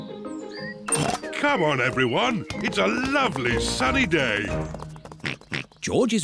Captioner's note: giggles; oinks